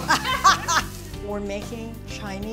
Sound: women laugh

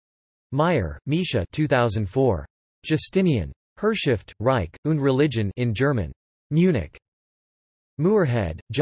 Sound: in German; in German

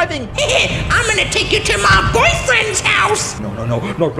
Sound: evil laugh

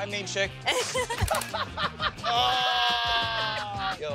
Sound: laughter

